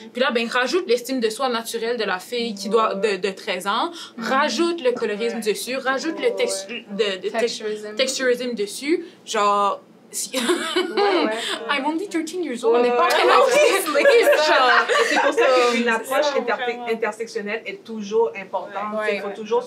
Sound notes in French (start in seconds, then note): 10.3 rires